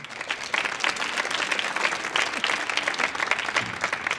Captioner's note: audience clapping